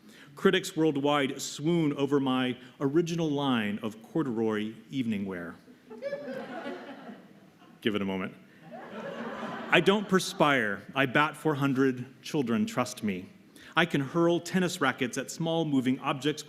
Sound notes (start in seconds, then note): 5.8 laughter